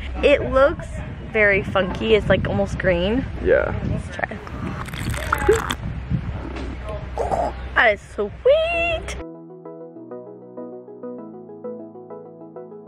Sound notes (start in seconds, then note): 4.4 slurping; 9.2 upbeat music